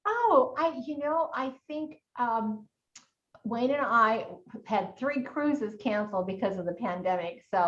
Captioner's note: none